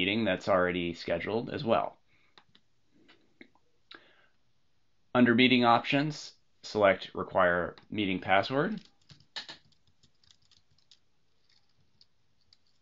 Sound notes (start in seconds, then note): 8.7 typing